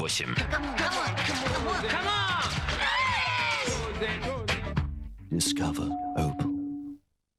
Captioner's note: rhythmic music; sounds of shutter descent of cameras